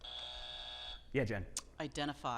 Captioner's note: buzzer buzzing